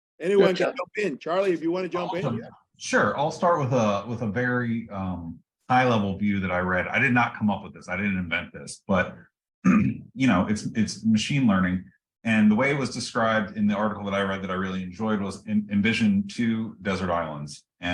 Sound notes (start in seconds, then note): 9.6 cough